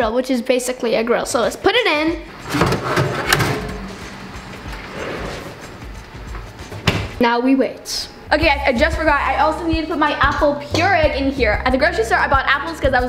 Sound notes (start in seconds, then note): 2.3 metal clanking; 3.3 soft upbeat music